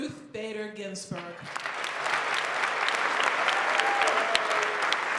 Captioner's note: applause